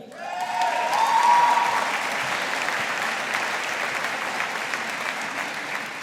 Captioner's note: audience applauding